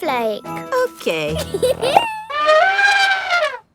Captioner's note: giggles; trumpets